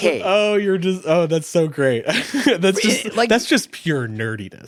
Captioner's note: chuckles